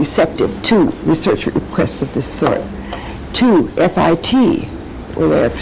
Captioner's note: laughs